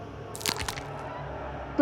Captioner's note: cracking sound